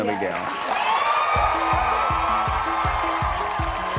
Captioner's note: cheers and applause